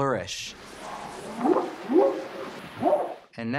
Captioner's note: whooping sound